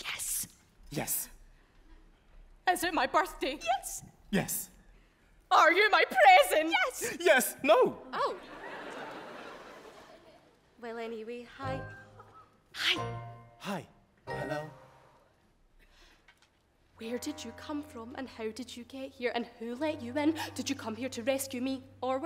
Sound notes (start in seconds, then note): 8.3 audience laughs